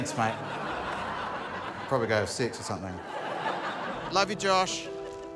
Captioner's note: laughter